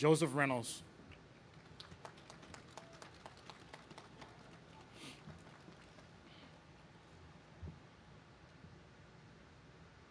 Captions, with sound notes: Joseph Reynolds. (audience claps)